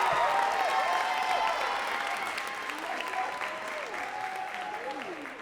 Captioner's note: audience cheering and clapping